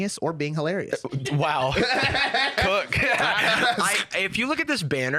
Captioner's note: laughs